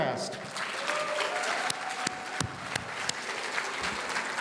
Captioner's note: audience applauding